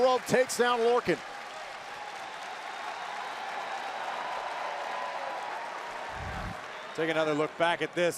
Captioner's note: crowd cheering